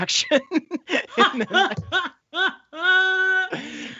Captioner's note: all laughing